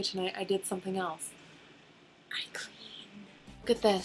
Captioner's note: whispering